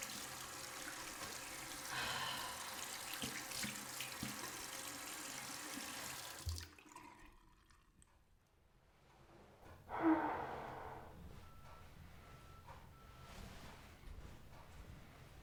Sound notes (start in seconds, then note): 0.0 water running; 11.9 sighs